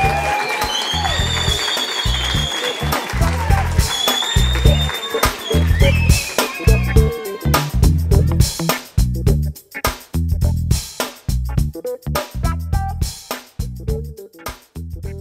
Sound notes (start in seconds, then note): 0.0 applause; 4.3 applause